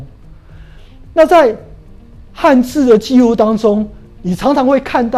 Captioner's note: chinese words